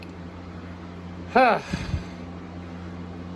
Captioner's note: Caprice sighs in frustration